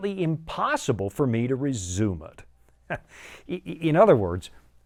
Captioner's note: chuckles